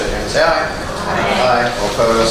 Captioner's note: A chorus of ayes